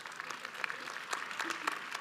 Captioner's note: audience applauds